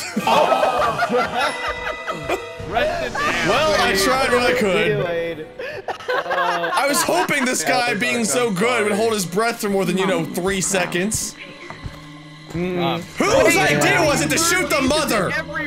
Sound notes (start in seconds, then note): 0.0 snicker; 0.0 laughs; 5.5 laughter